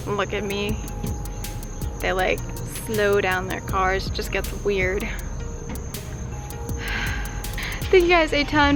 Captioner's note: sighs